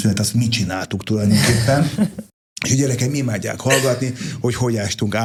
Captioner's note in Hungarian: nevetés